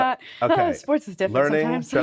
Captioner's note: chuckling; sighing